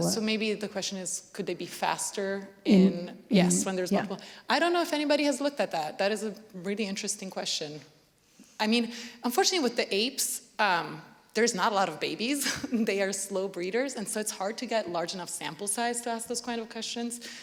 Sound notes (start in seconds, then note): 12.4 laughter